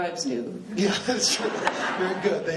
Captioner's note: laughing